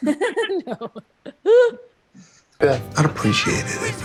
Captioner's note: Judy laughing